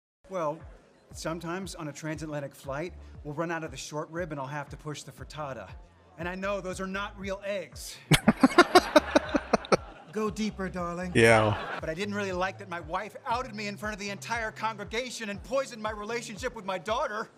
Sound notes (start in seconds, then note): 8.1 laughing